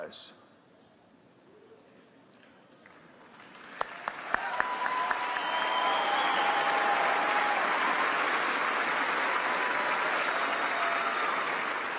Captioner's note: applause